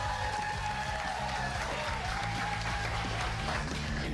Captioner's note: cheers and applause